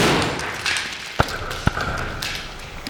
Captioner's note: bang